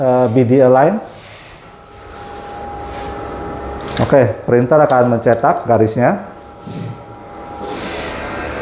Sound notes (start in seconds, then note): 1.4 printer machine noise